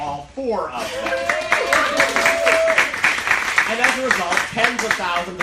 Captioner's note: cheering and applause